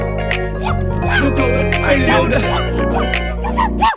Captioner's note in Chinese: 單身狗吠聲